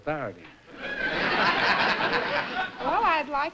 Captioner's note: laughter